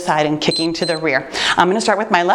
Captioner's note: timer beeps